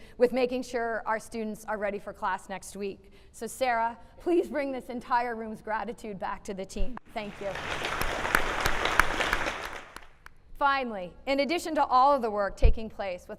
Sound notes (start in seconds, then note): 7.2 applauding